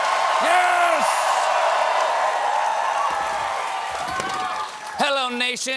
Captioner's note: audience chanting